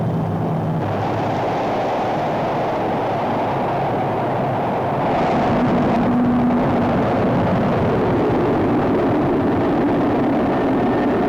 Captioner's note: rocket roaring